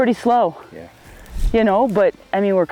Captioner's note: audio whooshes